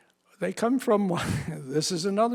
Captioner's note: chuckles